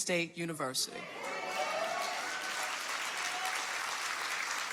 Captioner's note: audience applauding